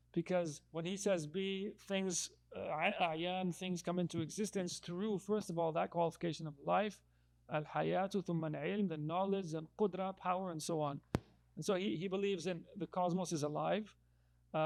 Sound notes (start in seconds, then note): 7.4 speaking in foreign language